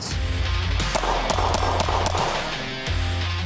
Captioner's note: gunshots